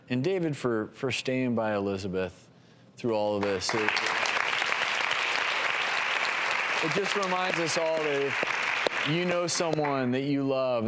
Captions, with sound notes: and David, for staying by Elizabeth through all of this. (applause) It just reminds us all that if you know someone that you love